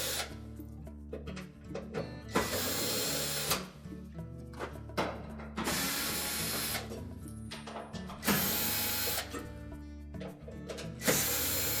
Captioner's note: tool noise